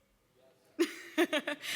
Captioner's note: laughs